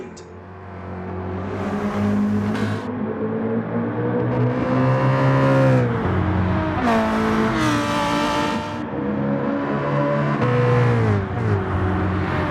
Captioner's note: engines revving, cars noises